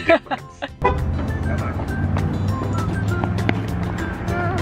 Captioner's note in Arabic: بوق السيارة